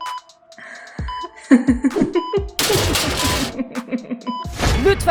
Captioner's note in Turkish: Gülme sesi